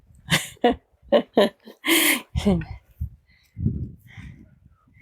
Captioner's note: laughter